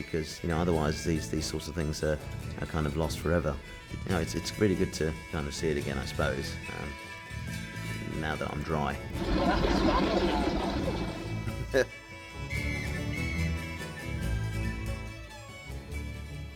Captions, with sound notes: because otherwise these sorts of things are kind of lost forever. No, it’s really good to kind of see it again, I suppose. Um, now that I'm dry. Well, that was fun, wasn’t it? [Chuckles]